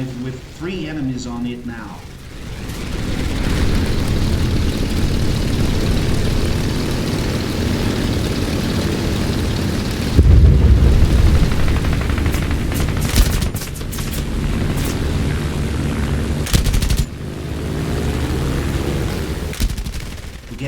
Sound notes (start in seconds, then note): 2.4 aircraft Engines ,Gunfire, Flying Sounds